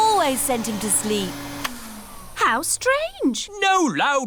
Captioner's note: whirring stops